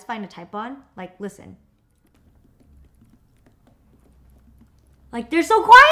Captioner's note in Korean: 키보드 치는 소리